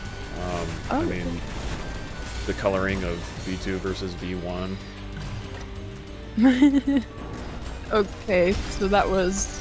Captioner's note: laughing